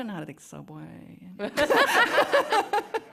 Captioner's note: laughter